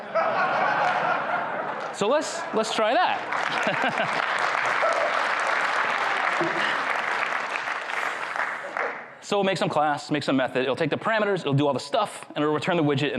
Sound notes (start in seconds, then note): 0.0 crowd chuckles; 4.5 crowd cheers